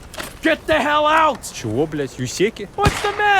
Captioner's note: USEC yelling to get the Hell out!